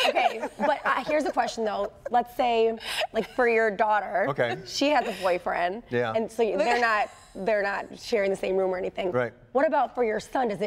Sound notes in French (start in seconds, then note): 0.0 laughter